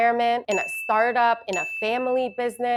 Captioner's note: bell ringing